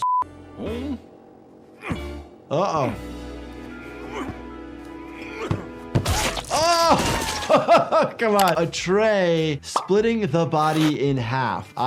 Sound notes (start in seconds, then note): 0.2 Lumpy grunting; 6.0 tray thudding; 6.1 Cuddles squishing; 7.2 laughs